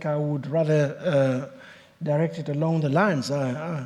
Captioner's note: none